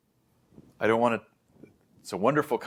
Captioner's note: background static continues